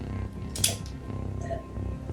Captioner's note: sips water